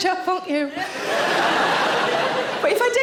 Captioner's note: audience laughing